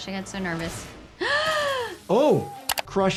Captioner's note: gasps